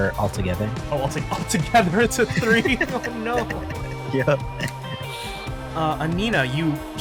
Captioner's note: laugh